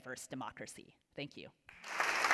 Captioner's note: applause